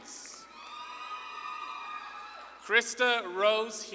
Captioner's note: audience claps and cheers